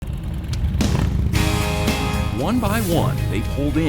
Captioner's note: engines revving; upbeat rock music